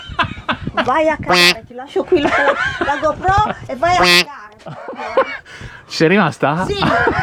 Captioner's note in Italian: risate